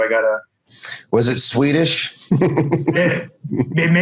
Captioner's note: laughs